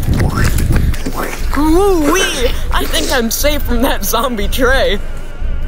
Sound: speaks in nerd language

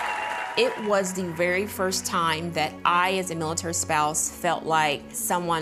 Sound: applause

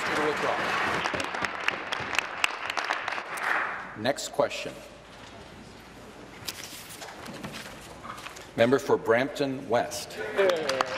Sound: applause

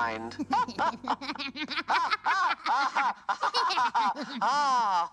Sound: Alastor and Nifty laugh

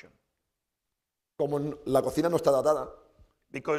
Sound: speaking spanish

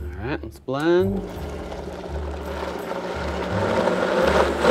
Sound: blender whirring

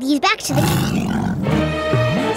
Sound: growling

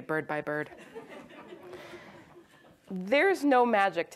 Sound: audience laughs

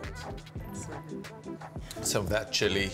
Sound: upbeat music; singer humming

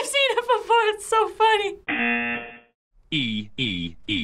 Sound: buzzer rings

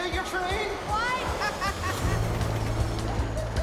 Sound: train car screeching; distant laughter

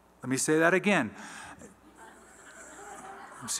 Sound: laughter

